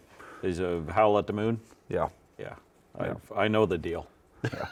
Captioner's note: both laughing